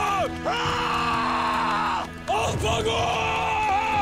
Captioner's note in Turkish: Haykırış